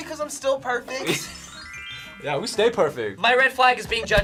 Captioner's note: laughs